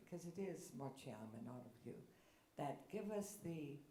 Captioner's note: speaks in foreign language